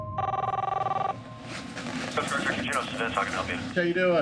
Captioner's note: phone ringing